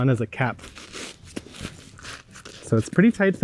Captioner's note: straw crunching